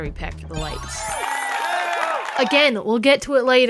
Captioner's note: Wii sports applause